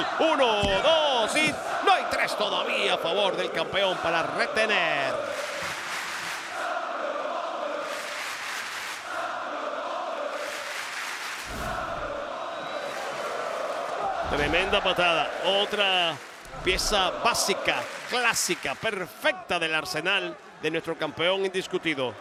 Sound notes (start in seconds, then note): 8.2 applause